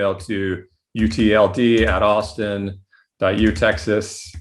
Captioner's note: fast typing